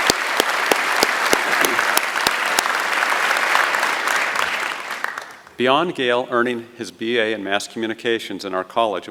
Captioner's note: applause